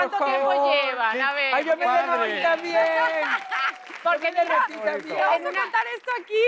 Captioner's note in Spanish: Ríe; Aplausos